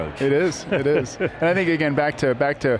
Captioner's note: chuckles